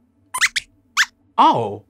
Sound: squeaks squeaks

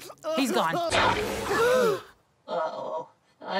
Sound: space kid sneezes, everyone gasps

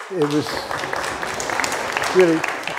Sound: audience clapping

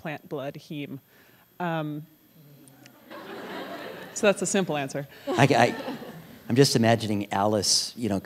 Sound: laughter

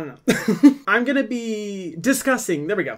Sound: laughing

